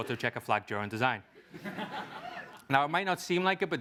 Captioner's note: laugh